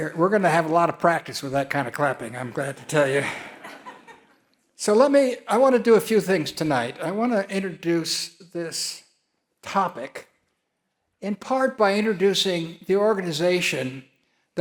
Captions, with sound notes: We're gonna have a lot of practice with that kind of clapping. I'm glad to tell you. (audience laugh) So let me, I wanna do a few things tonight. I wanna introduce this topic in part by introducing the organization